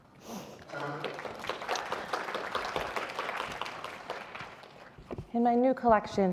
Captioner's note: audience applauding